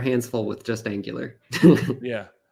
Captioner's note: chuckles